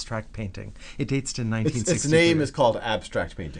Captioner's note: voiceover